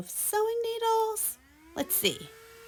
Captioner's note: vacuum revving